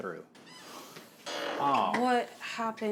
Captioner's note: screen door screeches open behind the two men